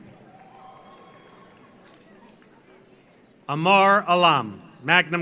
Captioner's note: audience applauds; audience cheers